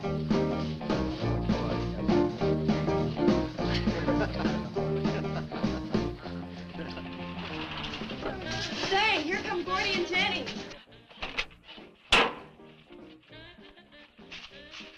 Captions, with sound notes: (lively dance music) (man chuckling) (engine rumbles) - Say, here come Gordy and Jennie.